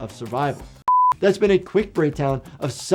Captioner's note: beep